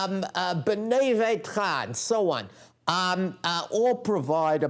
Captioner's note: non-english speech